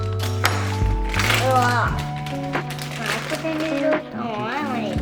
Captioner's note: making yucky noises